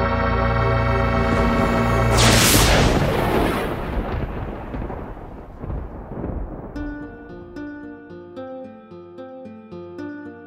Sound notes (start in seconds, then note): 1.1 lightning crashes; 6.8 soft music